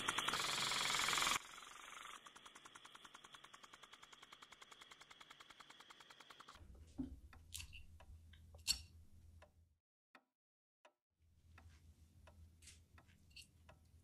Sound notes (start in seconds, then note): 3.5 clock ticking; 3.5 dishes clinking